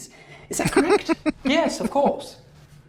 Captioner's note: chuckling